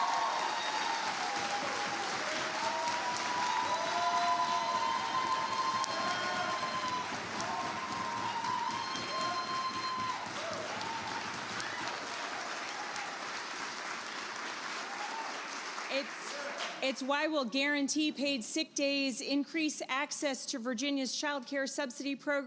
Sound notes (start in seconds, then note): 7.3 applause